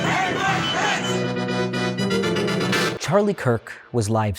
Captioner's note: crowd